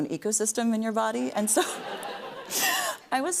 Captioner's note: laughing